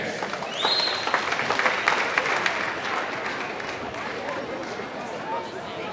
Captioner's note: applause